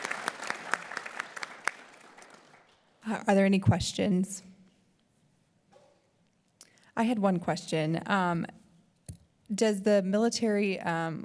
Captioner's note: applause